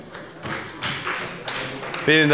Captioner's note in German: Beifall bei Abgeordneten der CDU